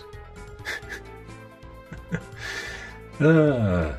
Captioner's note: laughing